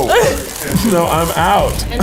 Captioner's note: laughs